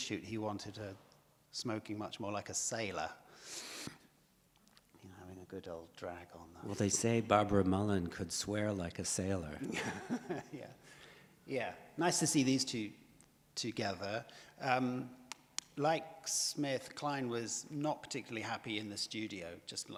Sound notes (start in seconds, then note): 9.6 laughs